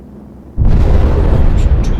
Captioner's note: bomb rumbling